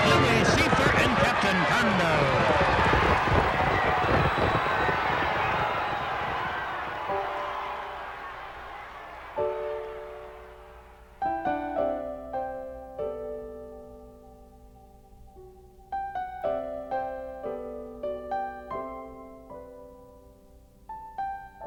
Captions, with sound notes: Louis Cyphre and Captain Condo! (crowd cheering) (somber piano music)